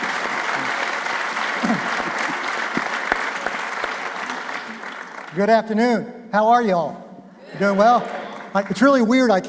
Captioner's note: applause